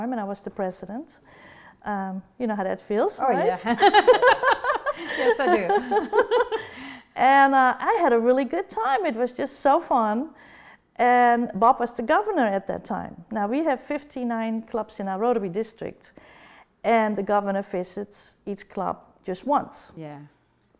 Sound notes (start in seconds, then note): 3.6 laughter